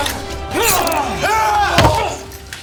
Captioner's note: Nazi groaning; knife slicing; Brown yelling; gun thudding